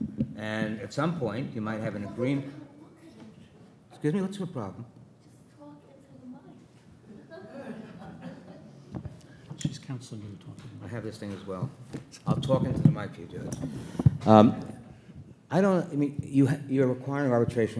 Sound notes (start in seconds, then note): 7.1 participants chuckling